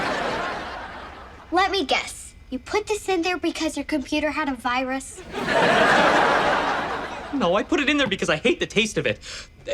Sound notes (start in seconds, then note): 0.0 audience laughs; 5.2 audience laughs